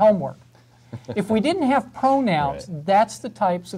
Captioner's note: laugh